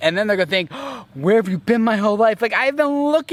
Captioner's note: gasps